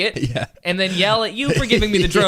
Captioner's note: laughs